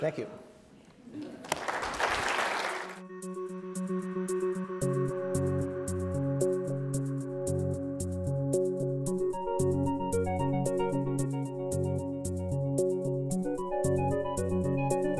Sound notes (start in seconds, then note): 1.2 audience applauds; 2.4 inspirational techno music